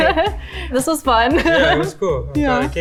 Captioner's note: laughs